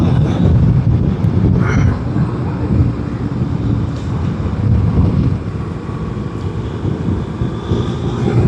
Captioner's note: engine